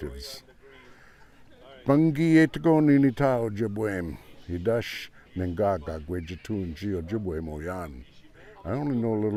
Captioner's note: speaking ojibwe